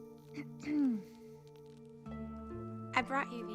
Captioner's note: lee clears throat